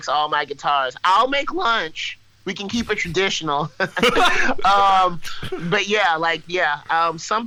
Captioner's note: laughs